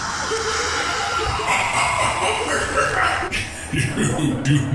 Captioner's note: maniacal Laughter